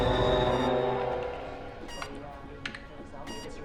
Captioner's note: machine beeps